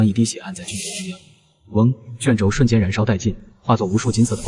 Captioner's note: whoosh!